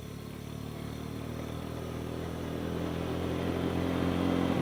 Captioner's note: motorbike roaring